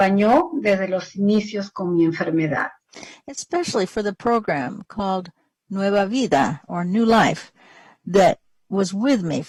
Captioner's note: speaking spanish